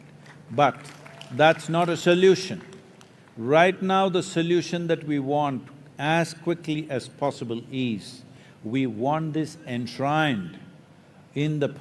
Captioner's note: cheering